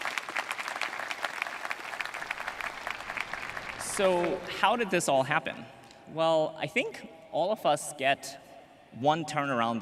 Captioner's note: applause